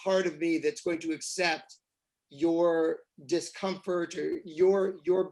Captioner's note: none